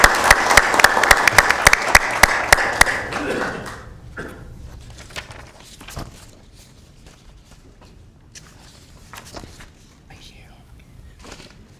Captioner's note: applauding